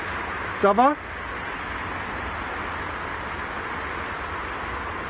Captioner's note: speaks in foreign language